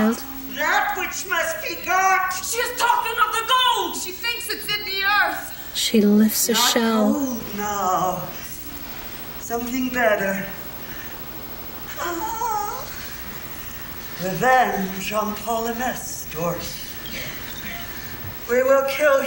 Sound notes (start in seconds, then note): 11.9 moan